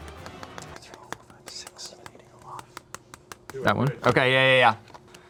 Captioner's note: finger tapping